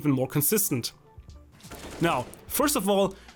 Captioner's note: rapid gun shots